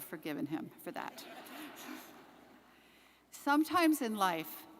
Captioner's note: audience laughs